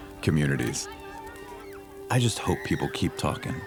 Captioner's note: children laughing